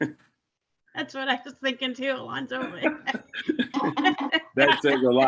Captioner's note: laughs